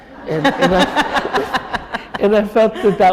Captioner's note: chuckle